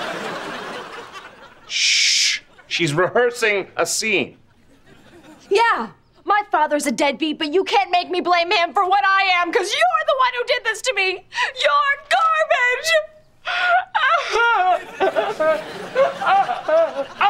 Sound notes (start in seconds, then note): 13.4 sobbing; 16.8 laughing